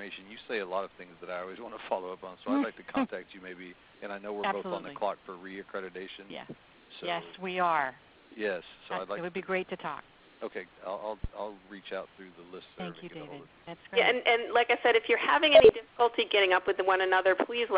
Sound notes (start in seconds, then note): 3.5 laughs